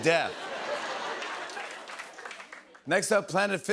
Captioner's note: laughter